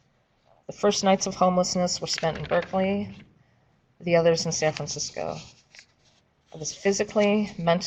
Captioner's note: paper shuffling